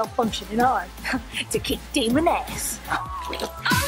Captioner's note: laughs